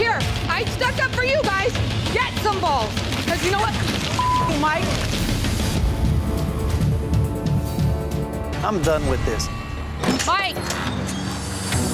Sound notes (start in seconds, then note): 4.2 beep; 4.7 ominous music; 11.7 suspenseful music